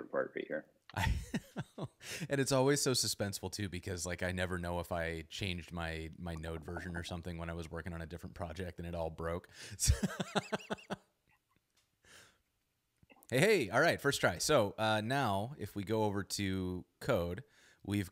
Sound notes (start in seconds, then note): 0.9 laughs; 9.8 laughs